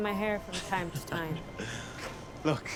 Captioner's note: Alex laughing